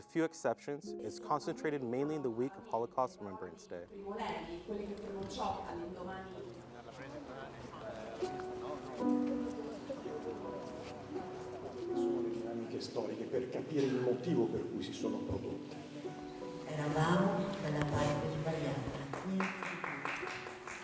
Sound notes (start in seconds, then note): 5.4 attendee speaking in foreign language; 13.5 speaking in foreign language